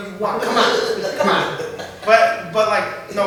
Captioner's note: laughter